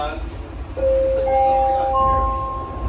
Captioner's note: door Closing Chime